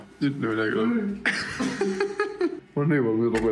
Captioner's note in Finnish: naurahduksia